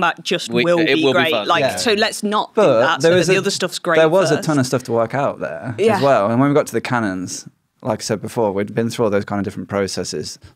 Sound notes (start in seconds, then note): none